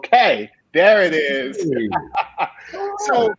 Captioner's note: laughing